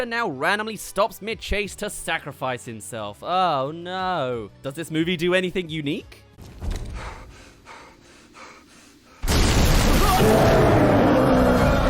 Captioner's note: crash